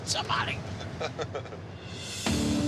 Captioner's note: laughs